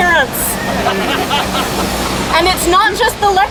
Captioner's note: laughter